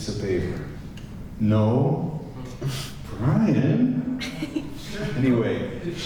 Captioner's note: giggles